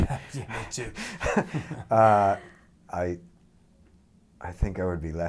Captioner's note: both laughing